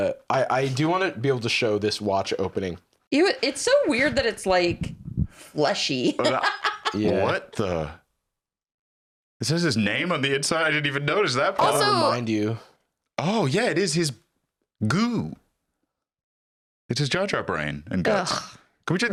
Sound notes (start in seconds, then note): 6.1 laughs